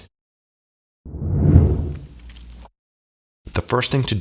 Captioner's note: air whooshing